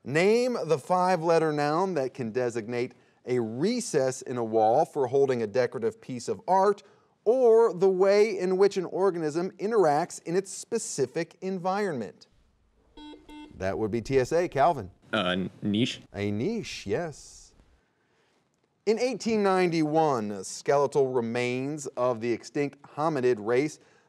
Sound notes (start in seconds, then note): 12.9 buzzer beeping